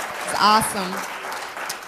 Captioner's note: applause